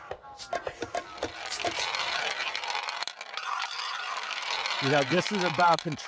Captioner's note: lively rhythmic music; roulette ball rattling